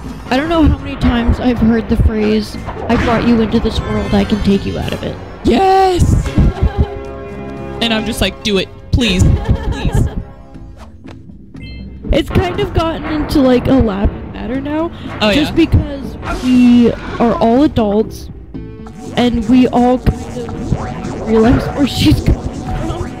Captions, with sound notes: I don't know how many time I've heard the phrase..."I brought you into this world. I can take you out of it." Yes! (laughter) And I'm just like..."Do it! Please!" (laughter) It's kind of gotten into, like, a laughing matter now just because we are all adults. And we all kind of realize where she's coming from.